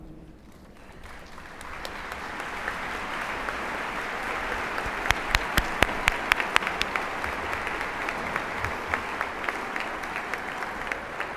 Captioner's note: applause